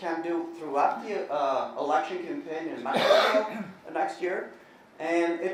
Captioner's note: coughing